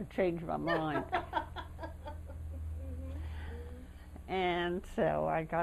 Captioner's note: laughter